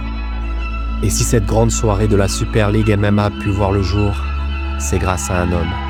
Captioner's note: applause